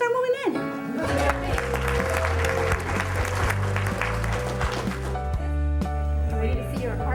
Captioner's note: upbeat music; cheering and applause